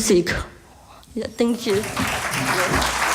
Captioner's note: applause